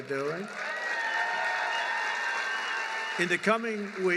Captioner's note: applause